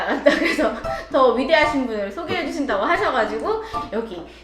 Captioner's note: trying not to laugh